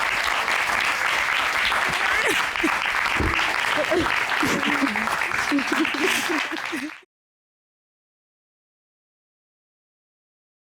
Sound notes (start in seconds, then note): 1.1 sobs; 3.2 chuckles